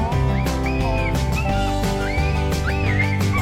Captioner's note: coyote crying